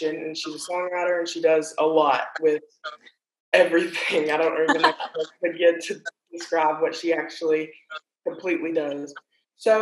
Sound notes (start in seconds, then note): 4.6 laughing loudly